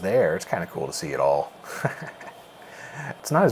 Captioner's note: chuckles